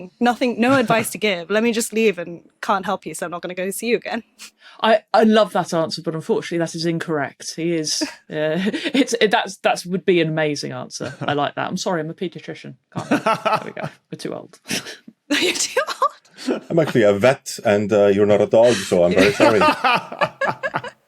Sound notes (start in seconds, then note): 15.4 laughs; 18.5 group laughing